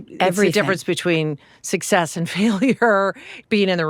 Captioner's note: laughs